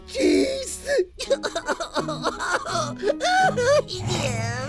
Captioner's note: sobbing